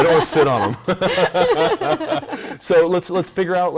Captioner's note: laughing